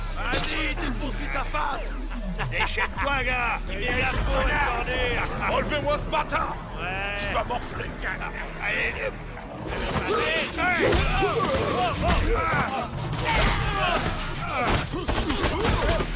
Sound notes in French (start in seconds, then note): 7.9 les gangsters crient; 7.9 musique intense; 9.9 musique heavy metal intense